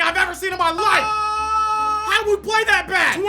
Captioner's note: yelling